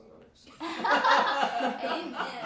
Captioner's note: all laugh